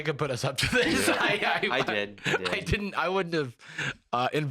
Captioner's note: laughing